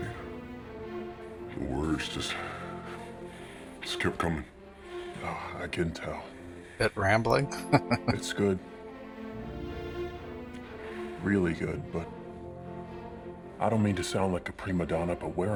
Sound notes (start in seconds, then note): 7.4 chuckling